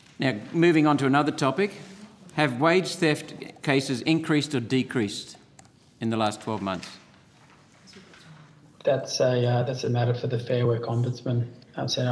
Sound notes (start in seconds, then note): 6.1 papers shuffling